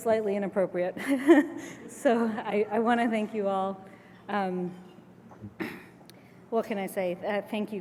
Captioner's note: laugh